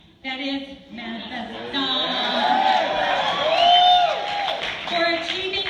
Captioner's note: cheers